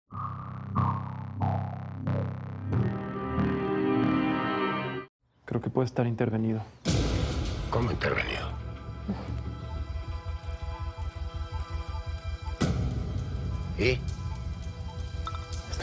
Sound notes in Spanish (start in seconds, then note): 11.6 Tecleo